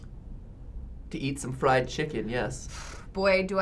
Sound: exhales

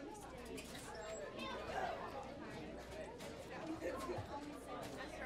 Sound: students talking loudly

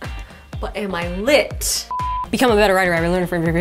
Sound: beep

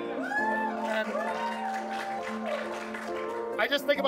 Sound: audience applauds

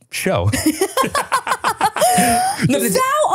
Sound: both laugh

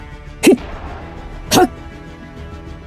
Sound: Eleven The Luminary Grunt Noise

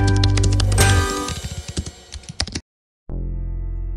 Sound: keyboard typing sounds

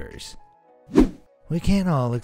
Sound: air whooshing

